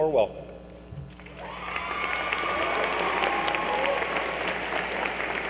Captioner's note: applause and cheering